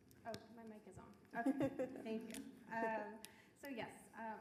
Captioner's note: laughing